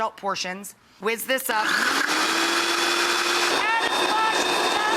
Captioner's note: blender whirring